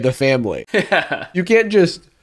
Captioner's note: laughing